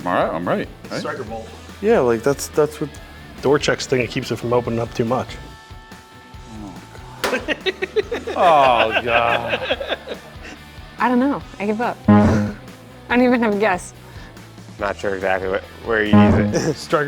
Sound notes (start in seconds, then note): 7.2 laughter